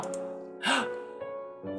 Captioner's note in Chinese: 吸氣